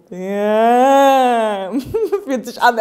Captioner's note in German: Sie lacht